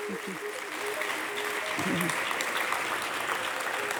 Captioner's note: audience applauding